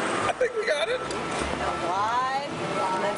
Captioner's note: laughter